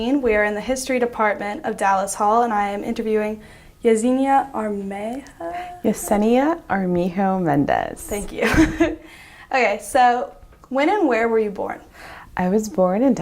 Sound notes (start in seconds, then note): 9.2 laughs